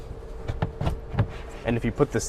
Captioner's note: soft thuds